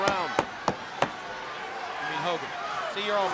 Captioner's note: crowd cheering; hand smacking